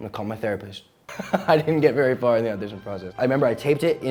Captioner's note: laughing